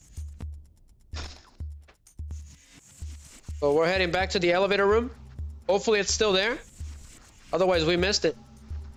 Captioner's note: snorts